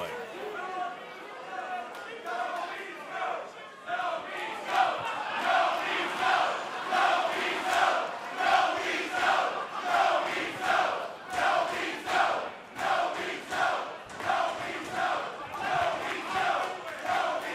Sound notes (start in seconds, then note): 4.6 fans chanting